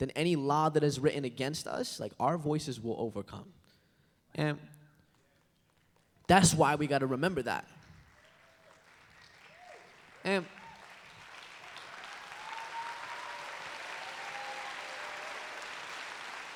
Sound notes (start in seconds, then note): 8.3 applause